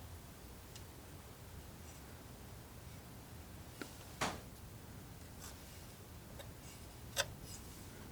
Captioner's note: tapping